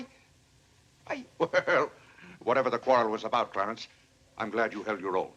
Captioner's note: chuckles